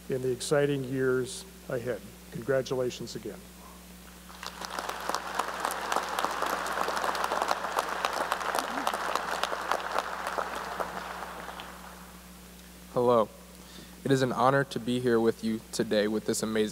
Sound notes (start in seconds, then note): 4.2 applause